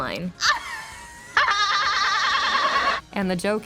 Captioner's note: braying laughter